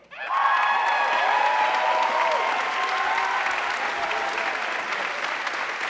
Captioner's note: audience cheering and applauding